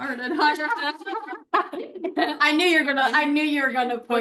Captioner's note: laughter